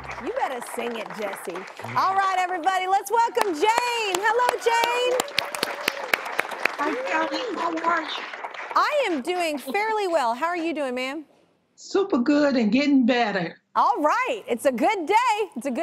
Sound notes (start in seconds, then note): 4.9 audience applaud and cheer